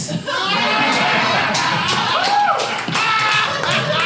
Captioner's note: audience laughing